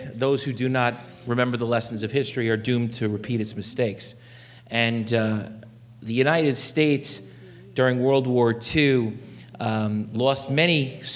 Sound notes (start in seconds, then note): none